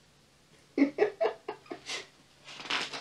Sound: laughs

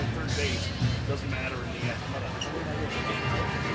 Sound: people chattering

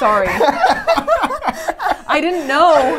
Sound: laughs

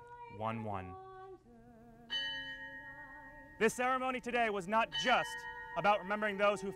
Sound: bell toll, bell toll

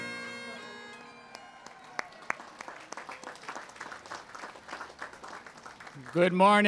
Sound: applause

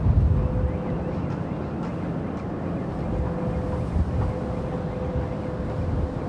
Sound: wind whooshing; siren wailing

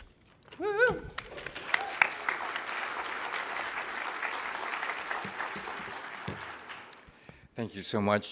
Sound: applause

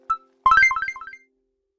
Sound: confirmation sound

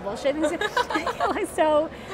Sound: laughing

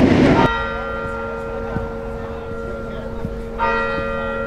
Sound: bell ringing

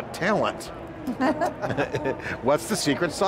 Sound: laughs

